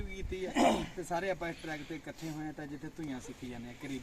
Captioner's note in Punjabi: ਗਲਾ ਸਾਫ਼ ਕਰਨ ਦੀ ਅਵਾਜ਼